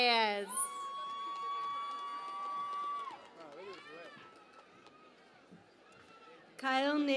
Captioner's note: cheering and Applause